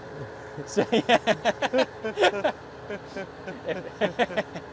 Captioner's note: both laughing